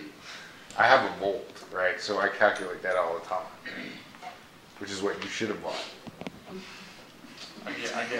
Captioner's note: laughing